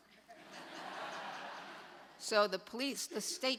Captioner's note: audience laughs